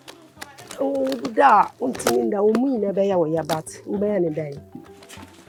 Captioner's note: speaking foreign language